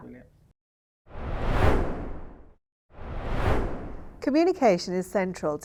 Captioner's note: screen swooshing